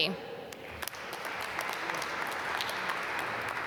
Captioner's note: applause